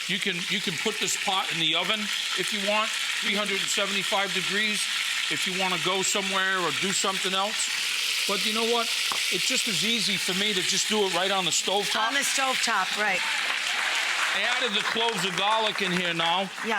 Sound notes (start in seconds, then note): 11.7 audience cheers